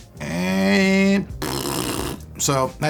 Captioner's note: farting sound